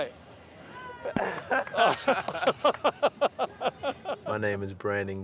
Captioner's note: laughter